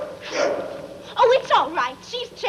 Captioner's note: Nana barking